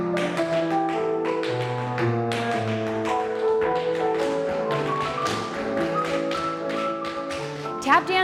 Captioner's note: tap dancing